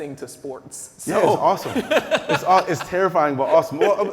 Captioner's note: laughing